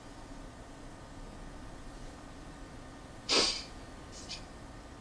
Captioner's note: sniffling